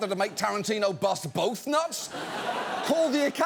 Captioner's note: studio audience laughs